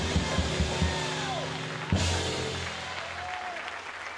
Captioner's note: crowd cheering